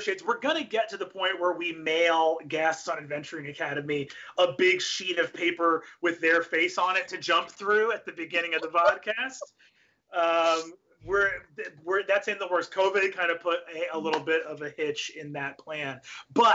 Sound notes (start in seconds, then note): 10.0 laughs